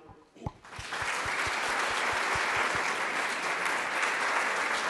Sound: everyone applauds

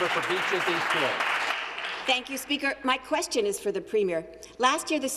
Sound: some Applause

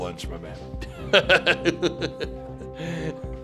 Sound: laughing

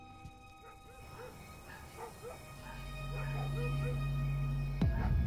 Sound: dog barking

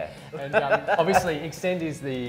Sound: laughing

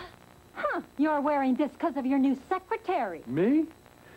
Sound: wife, jealously

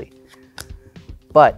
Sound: card slaps

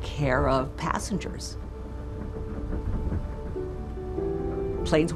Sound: engine whirring

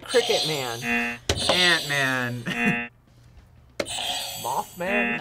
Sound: buzzer rings; laughs; buzzer rings

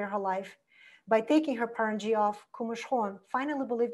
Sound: foreign language

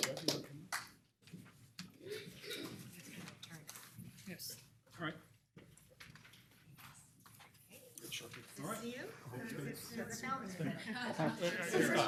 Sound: applause

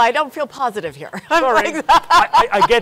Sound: laughs

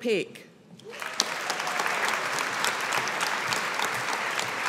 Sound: audience applauding

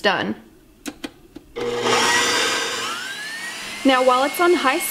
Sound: mixer whirring

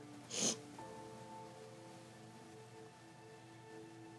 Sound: sniffling

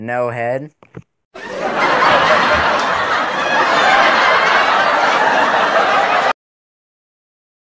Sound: intense laughter

